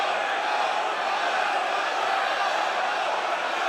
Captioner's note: crowd chants "No"